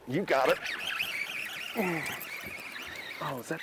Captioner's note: pole reels quickly